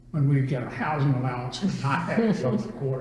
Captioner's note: laughter